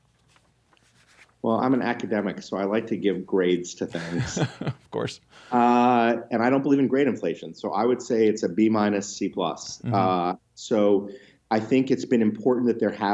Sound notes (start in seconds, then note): 3.9 chuckles